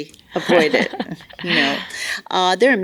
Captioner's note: laughs